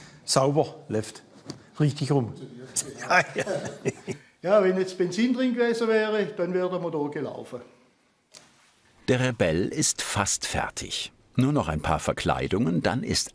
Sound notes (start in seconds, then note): 2.8 laughter